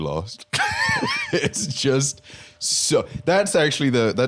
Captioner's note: laughs